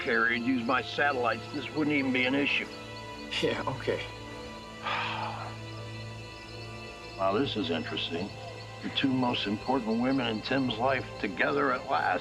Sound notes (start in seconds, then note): 0.0 scoffs; 4.8 sighs